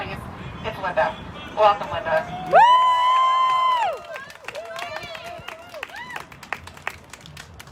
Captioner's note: cheering